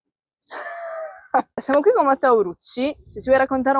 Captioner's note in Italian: risate